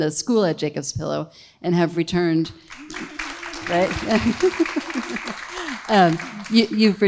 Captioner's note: audience applauding